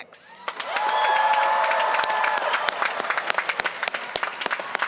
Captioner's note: applause